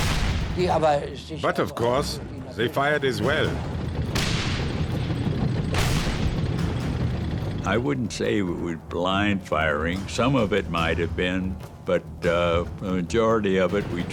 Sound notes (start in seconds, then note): 0.0 tank turret firing; 3.2 tank turrets firing